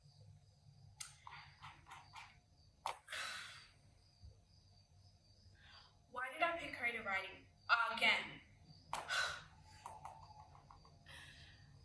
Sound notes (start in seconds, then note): 3.0 sighs